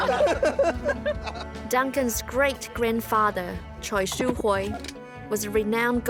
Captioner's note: all laugh